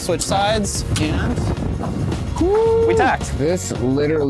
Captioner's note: wind and rattling